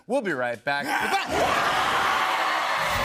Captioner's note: screaming; cheers and applause